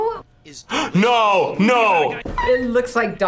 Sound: gasps

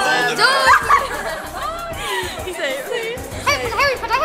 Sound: laughing

